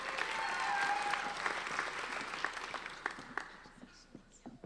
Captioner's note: applauding